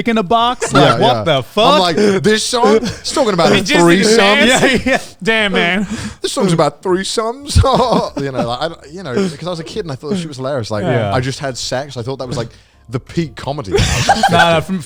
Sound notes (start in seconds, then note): 7.4 sarcastic laughing